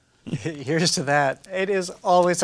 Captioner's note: chuckling